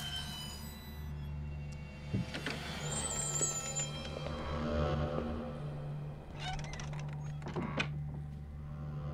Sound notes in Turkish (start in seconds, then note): 0.0 Müzik - Gerilim; 2.1 Kapı açılma sesi